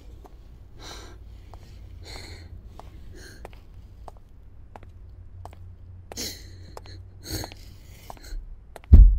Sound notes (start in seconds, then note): 1.2 footsteps pattering; 6.1 sobbing